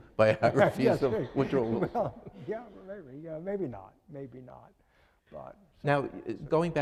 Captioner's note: laughing